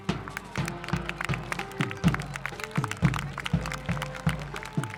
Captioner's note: clapping